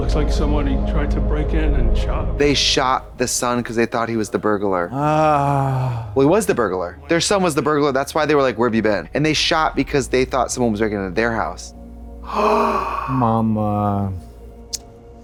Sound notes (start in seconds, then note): 0.0 mysterious music; 4.9 Katya groans; 12.2 Trixie gasps